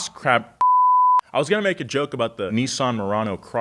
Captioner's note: beep